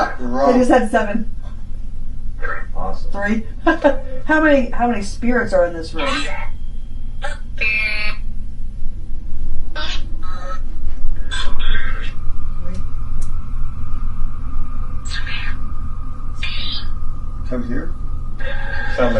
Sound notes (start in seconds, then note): 3.6 chuckles; 6.5 EVP warbles and buzzes; 15.4 EVP warbles